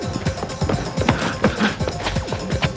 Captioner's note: panting